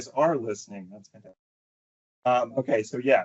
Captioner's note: audio cuts out